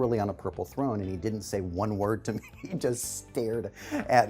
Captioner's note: laughs